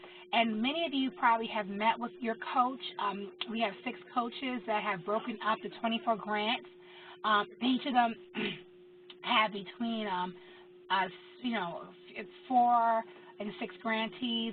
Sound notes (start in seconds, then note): 8.3 cough